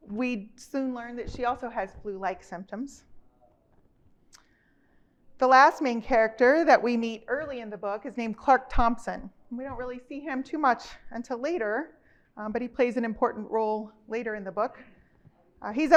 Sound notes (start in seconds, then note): none